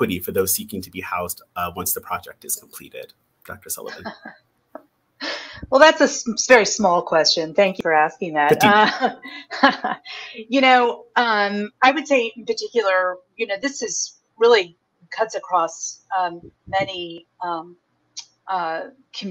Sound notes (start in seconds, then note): 8.5 laughs